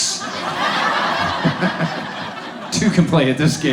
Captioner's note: audience laughs